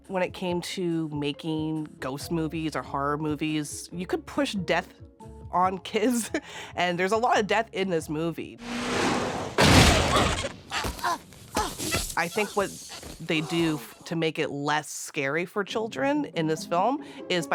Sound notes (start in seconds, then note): 6.1 chuckles; 8.9 engine roaring; 9.5 car thuds; 10.6 Carrigan grunting